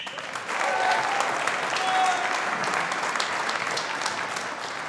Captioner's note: audience applauding